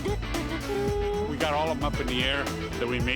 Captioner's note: <i> hums fanfare</i>